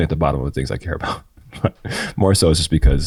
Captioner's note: chuckles